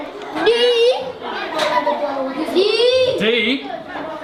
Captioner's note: giggles